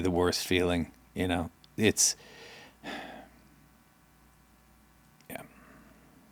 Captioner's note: sighs